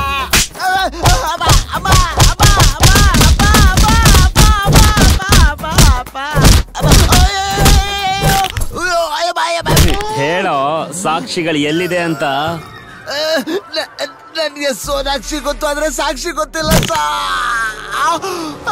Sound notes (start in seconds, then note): 6.7 groans